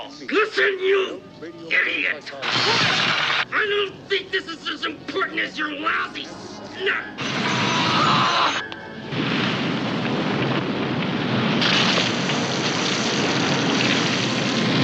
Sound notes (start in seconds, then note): 2.4 electrical buzzing; 7.5 man screaming; 9.0 flames whooshing